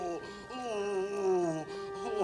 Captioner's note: moaning